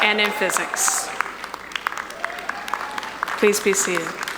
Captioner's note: audience applauding; audience cheering